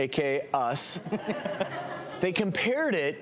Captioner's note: laughing